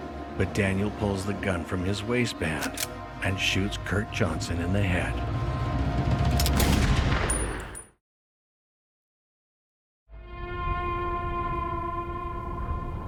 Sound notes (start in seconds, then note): 0.0 rising eerie music; 6.3 gun firing; 10.1 eerie music